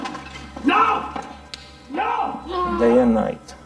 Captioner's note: groaning